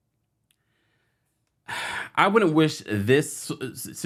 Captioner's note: sighs